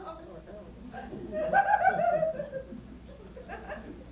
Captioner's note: laughter